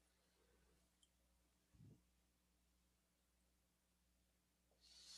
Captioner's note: none